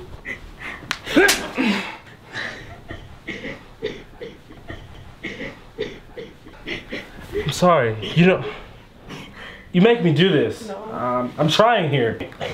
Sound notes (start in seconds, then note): 3.1 Heidi cries to herself